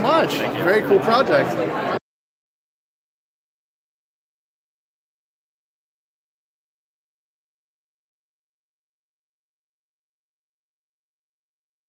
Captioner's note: no audio